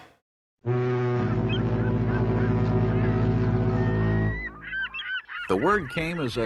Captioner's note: boat horn blowing; seabirds cawing